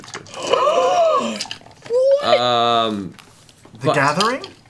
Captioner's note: gasps